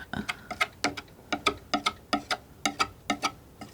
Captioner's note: tapping